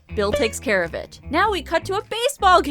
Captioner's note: dink!